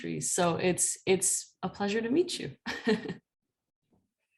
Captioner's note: laughter